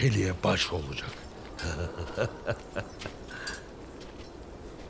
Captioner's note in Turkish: Gülme sesi